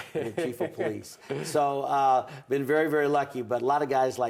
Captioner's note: laughter